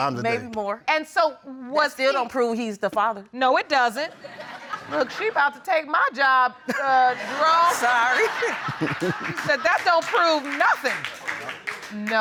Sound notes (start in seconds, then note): 4.1 audience chuckles; 7.0 audience laughs; 7.1 laughs; 7.6 chuckles; 10.9 audience applauds lightly